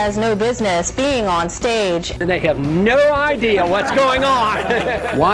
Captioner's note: laughs